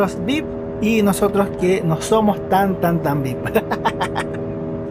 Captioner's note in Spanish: risas